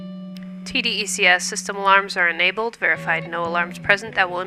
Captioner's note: female voice over com